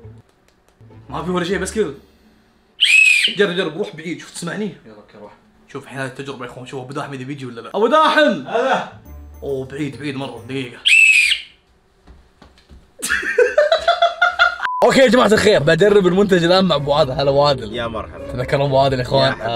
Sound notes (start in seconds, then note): 2.8 whistles; 10.8 whistles; 13.0 laughter